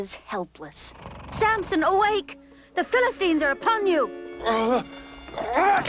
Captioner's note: Samson snoring; Samson growls, ropes snap